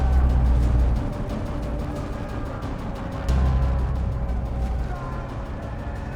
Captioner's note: sounds of battle